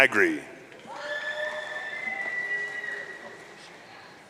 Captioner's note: audience cheering